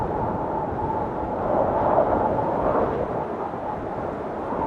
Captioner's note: blowing wind